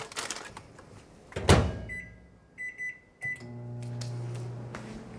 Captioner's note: microwave beeps